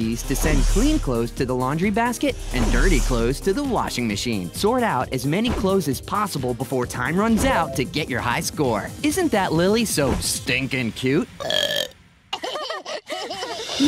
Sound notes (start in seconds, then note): 11.4 burp; 12.3 laughter